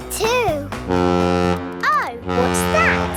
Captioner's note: horn bellowing